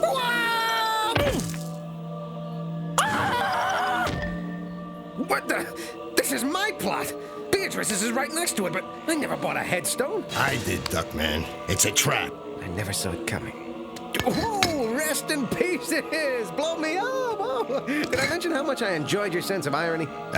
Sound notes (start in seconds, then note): 0.3 screaming